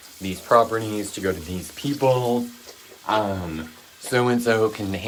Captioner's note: tap water runs